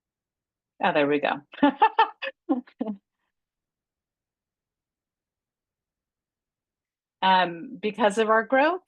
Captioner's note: laughter